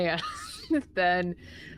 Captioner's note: laughs